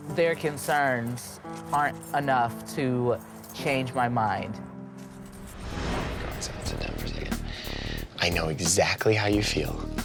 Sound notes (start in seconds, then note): none